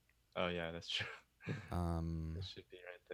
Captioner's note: chuckles